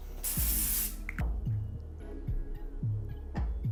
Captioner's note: oil spraying